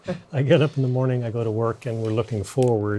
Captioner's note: laughs